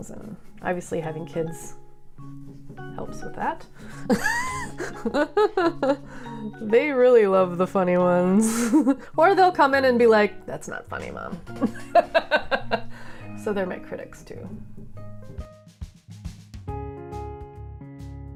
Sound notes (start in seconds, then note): 4.1 laughing; 11.5 laughing